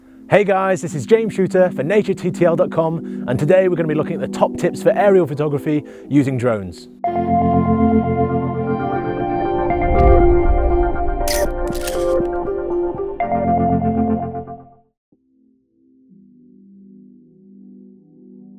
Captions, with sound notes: - Hey guys, this is James Shooter for NatureTTL.com, and today we're going to be looking at the top tips for aerial photography using drones. (tranquil music) (camera clicks)